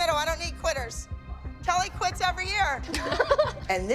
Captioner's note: laughing